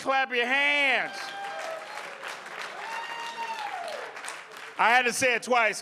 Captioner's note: audience applauding